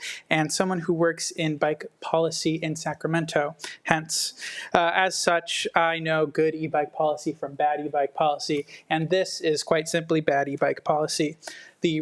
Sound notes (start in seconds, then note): none